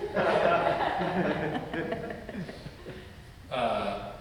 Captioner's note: audience laugh